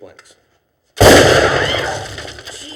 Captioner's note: gunshot